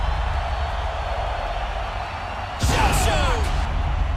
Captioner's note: crowd cheering